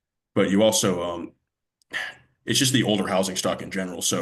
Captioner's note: sighs